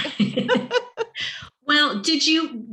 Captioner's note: laughing